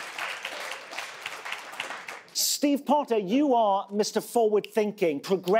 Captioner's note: applause